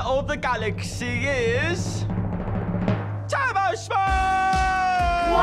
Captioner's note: audience cheers, applauds